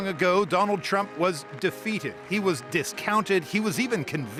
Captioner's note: cheers and Applause